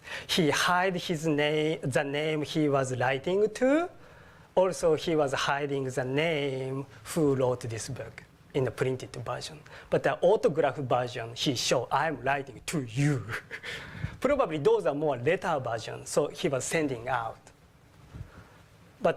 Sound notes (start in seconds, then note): 13.2 laugh